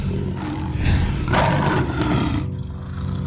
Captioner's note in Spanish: Rugidos